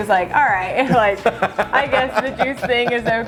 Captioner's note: laughing